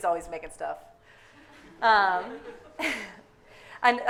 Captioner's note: audience laughing